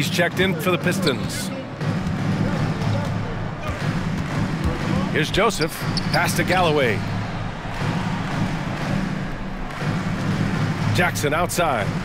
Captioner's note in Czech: Potlesk